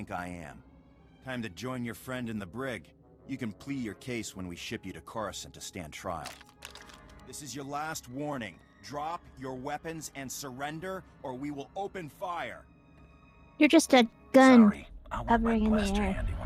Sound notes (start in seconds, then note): none